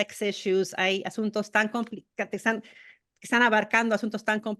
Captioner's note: spanish